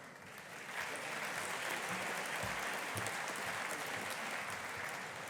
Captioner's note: audience applauding